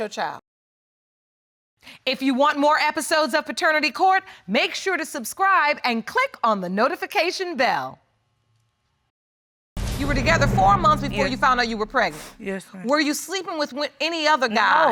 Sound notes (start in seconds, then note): none